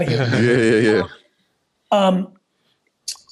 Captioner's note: laughs